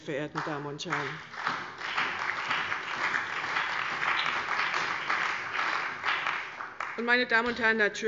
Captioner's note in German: Beifall bei der CDU und dem BÜNDNIS 90/DIE GRÜNEN